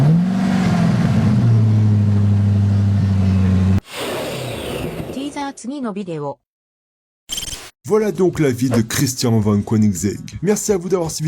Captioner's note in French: bip